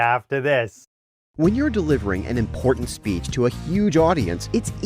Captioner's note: voice-over